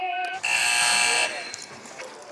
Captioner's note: buzzer